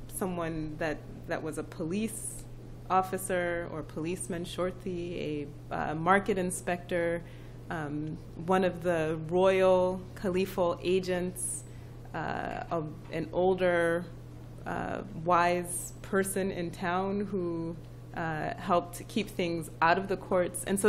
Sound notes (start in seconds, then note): 4.5 non-english speech